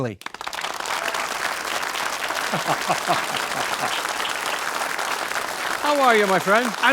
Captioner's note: audience applauding; John laughing